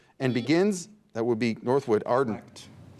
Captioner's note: buzzer beeps